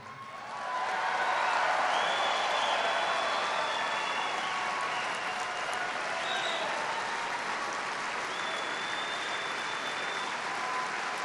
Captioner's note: applause